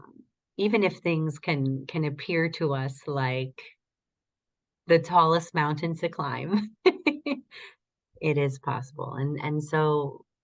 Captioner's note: laughter